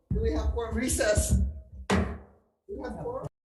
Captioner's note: gavel bangs once